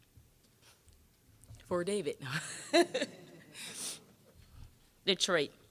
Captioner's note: all laughing